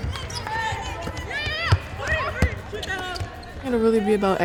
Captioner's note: team yelling